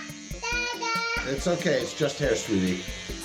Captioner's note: electric buzzing